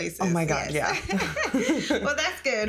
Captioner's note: both laughing